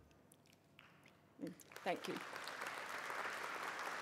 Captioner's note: applause